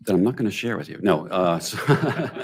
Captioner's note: laughs